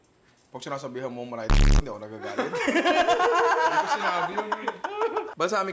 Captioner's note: laughter